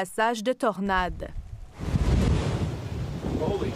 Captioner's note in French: bourrasques de vent